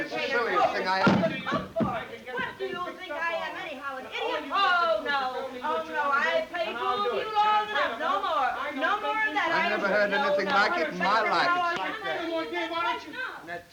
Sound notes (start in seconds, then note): 6.7 Ollie and Mrs. Hardy chattering